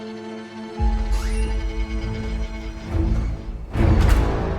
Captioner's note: door creaks